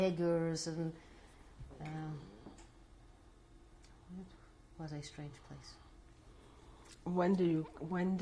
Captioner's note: pauses for 3 seconds